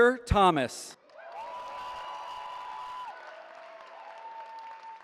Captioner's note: cheering